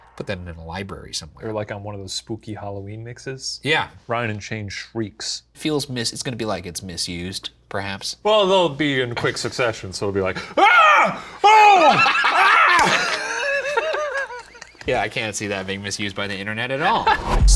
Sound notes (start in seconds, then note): 10.6 Shane shrieks; 11.8 both laugh